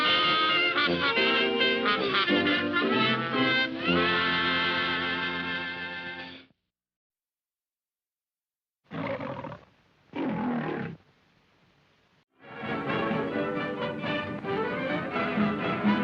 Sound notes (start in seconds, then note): 10.1 lion roars; 12.3 upbeat music